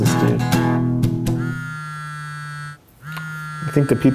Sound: vibrating phone

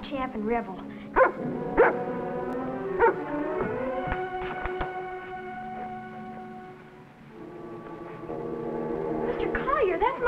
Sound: dog barking

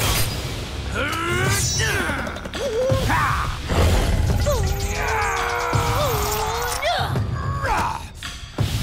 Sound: grunting

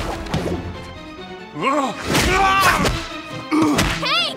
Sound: grunts

